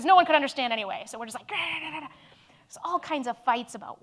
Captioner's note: angry vocalizing